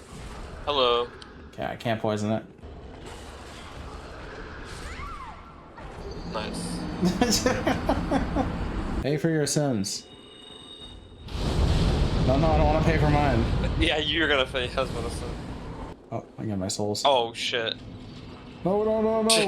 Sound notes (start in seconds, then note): 7.0 laughing